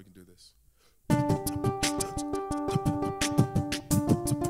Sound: beatboxing; jazz funk music

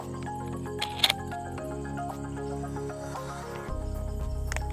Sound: screw spins

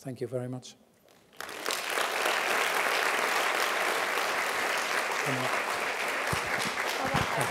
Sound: applause

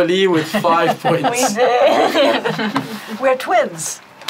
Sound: both laugh

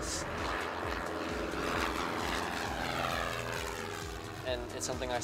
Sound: plane engine roars

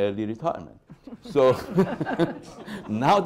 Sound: laughter

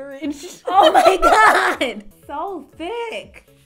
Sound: laughs

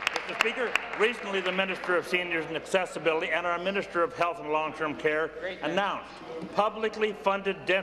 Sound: applause

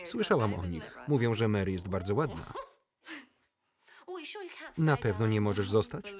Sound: laugh loudly

